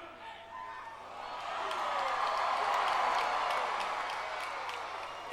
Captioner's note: crowd cheering